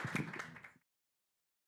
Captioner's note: applause